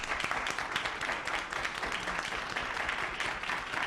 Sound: applause

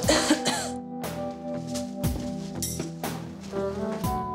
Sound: Angelina coughs

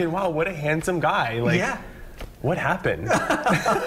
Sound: laughter

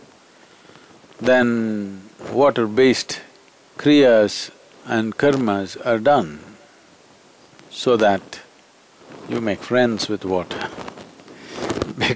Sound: laughs

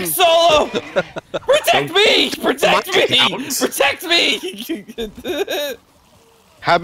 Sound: laughter; laughter

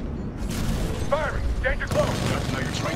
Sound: radio

